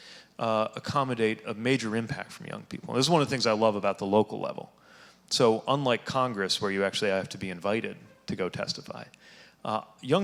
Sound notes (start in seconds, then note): none